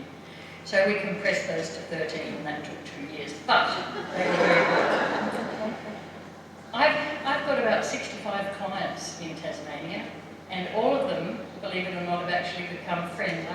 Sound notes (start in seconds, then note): 3.8 laughter